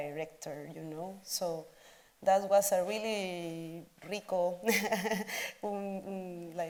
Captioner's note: speaks Spanish